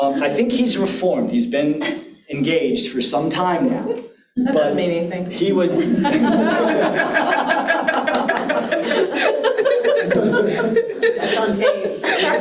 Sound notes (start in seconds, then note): 5.7 audience laughs